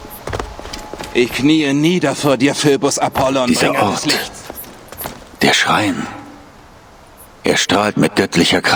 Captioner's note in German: räuspern